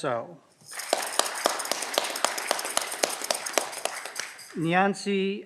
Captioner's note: audience clapping